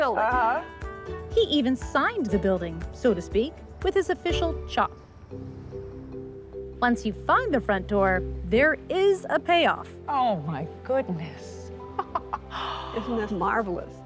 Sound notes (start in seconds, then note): 11.9 laughs